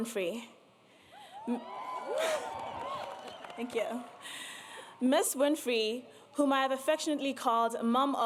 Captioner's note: applause